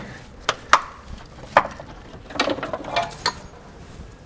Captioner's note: metal clinking softly